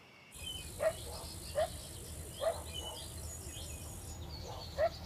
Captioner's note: dog barking